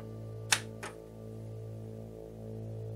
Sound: satisfyingly new click

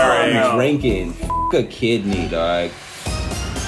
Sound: beep

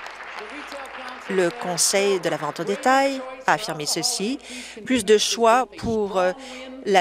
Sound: applause

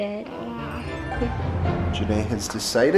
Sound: laughs

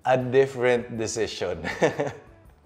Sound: chuckles

